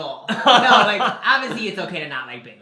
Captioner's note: laughs